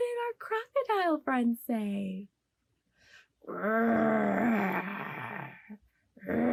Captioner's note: growling noise